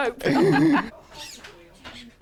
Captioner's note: laughs